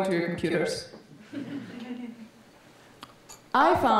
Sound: audience laughing

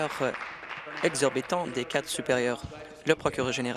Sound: applause

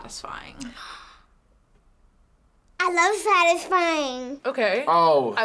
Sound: gasps

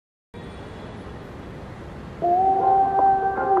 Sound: traffic humming; smooth hip-hop music

